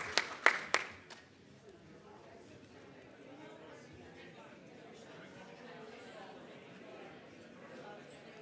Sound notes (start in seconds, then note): 1.8 indistinct audience chatter